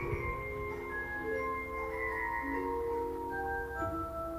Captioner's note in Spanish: trueno suave